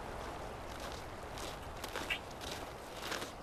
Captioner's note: feet crunching in snow